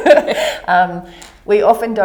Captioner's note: laughter